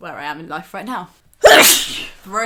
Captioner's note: sneeze